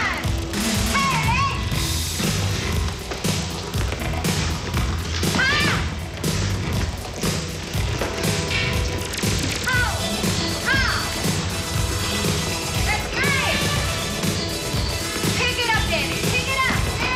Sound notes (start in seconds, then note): 3.0 yelling